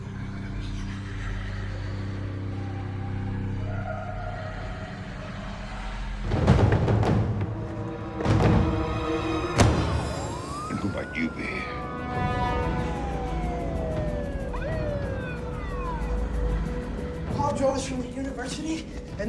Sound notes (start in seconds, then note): 0.0 voices whispering and wailing; 6.6 tense dramatic music; 12.7 police siren wailing